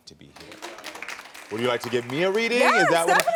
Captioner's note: audience clapping